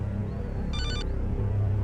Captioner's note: phone Rings